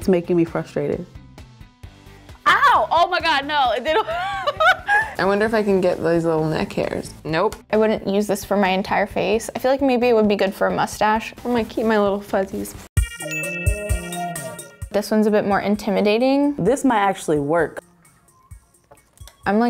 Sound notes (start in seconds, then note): 3.9 laughs; 12.9 electronica music